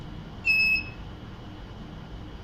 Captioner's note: beeps